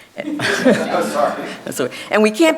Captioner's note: audience chuckling